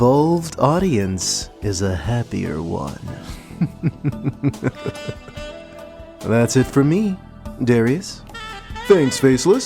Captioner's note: evil laughter